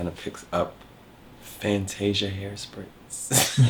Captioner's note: laughs